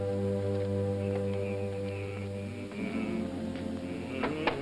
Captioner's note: humming